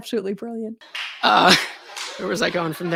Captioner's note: laughter